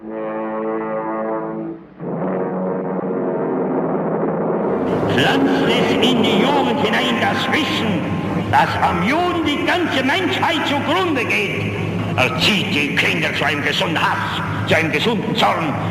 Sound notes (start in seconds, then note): 0.3 dramatic orchestral music; 5.3 foreign language dialog